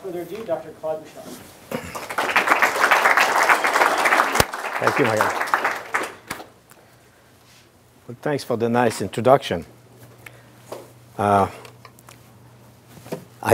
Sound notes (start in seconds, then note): 1.8 applause